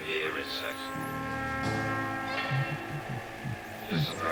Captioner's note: voiceover